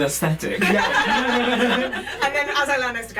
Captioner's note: laughter